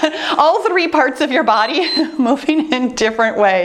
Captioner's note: timer beeps